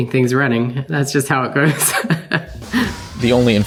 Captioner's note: chuckles